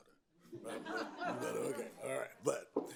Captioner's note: attendees laughing